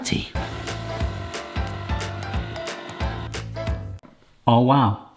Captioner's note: upbeat music; can opener whirring